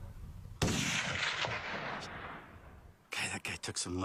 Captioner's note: rifle shot echoes